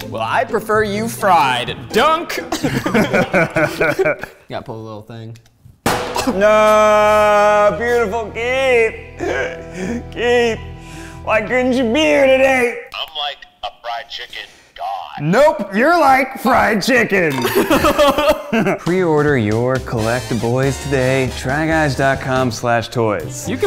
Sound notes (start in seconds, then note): 2.4 laughing